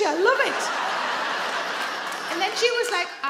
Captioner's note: audience laugh